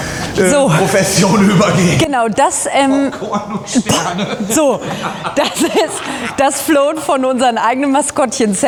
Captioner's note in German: gelächter